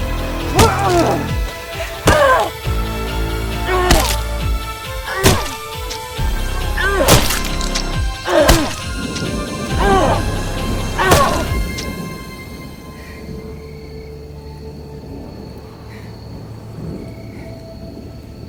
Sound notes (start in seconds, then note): 0.6 Trash Man moaning; 5.1 dramatic music; 9.6 insects chirping; 11.8 dramatic music; 13.7 insects chirping